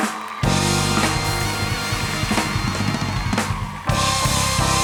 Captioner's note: upbeat music; audience cheering